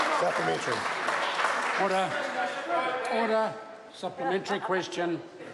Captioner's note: members applaud